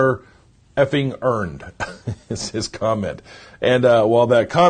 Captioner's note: chuckles